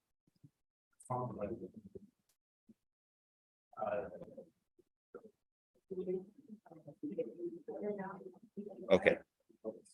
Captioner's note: background chatter